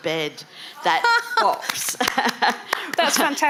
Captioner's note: laughing